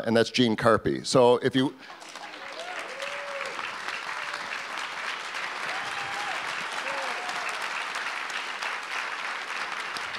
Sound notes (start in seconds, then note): 1.9 audience applause